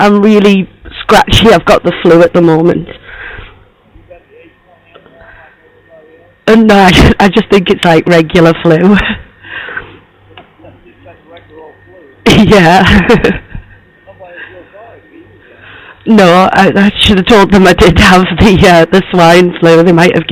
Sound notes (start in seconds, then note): 12.2 laughs